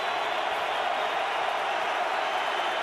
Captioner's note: crowd cheering